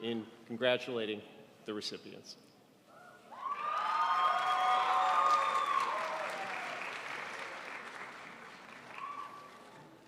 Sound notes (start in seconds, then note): 3.6 crowd applauds